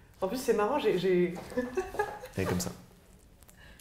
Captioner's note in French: rire